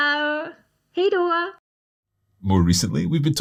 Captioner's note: speaks in foreign language